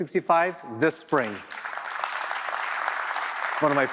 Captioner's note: applause